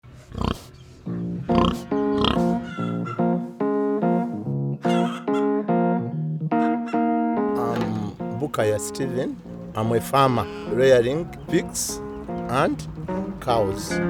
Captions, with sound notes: [pig oinking] [Afro jazz music] I’m Bukaya Steven. I'm a farmer, rearing pigs and cows.